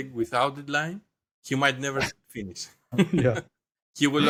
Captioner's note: laugh